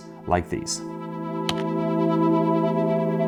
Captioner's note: click